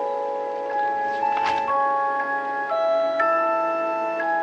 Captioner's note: page turning